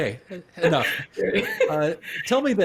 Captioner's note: laughing